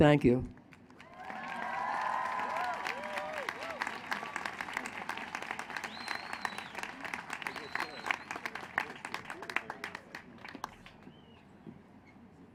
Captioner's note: applause